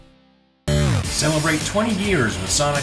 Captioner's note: electronic buzz